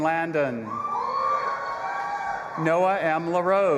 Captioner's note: audience applauding and cheering